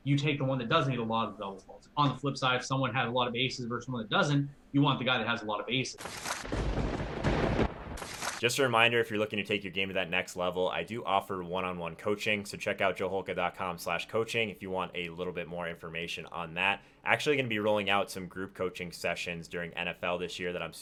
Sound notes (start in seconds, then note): 6.0 lightning strikes